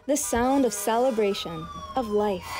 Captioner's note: sirens